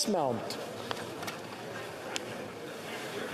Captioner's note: speaking French